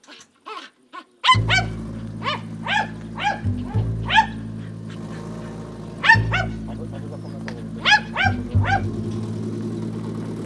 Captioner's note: the dog keeps barking